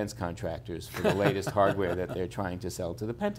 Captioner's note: laughs